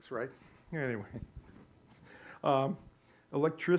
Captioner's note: laughing